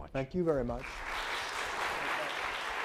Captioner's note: audience applauding